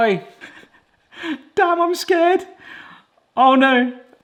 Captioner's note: laughs